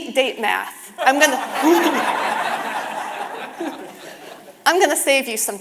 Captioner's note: audience laughing